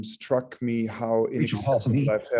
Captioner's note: VoiceOver command in background